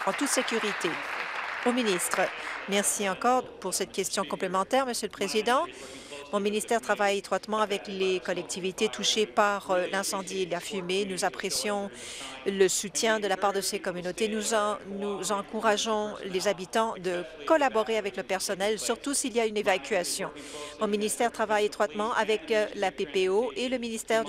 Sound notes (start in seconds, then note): 4.2 applause